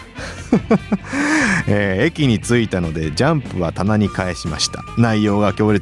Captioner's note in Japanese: 笑い; 息をのむ音